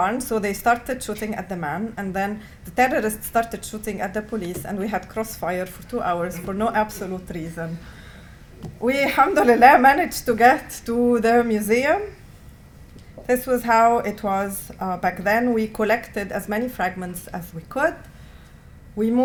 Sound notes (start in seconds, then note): 9.2 non-english